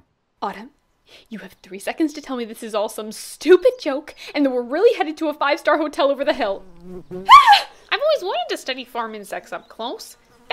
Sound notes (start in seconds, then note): 5.9 buzzing fly; 7.0 Kanani Shrieks